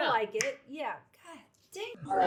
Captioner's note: item clanks